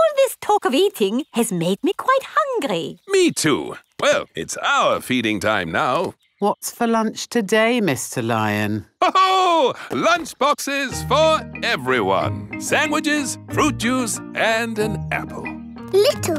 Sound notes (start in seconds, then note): 9.0 laughs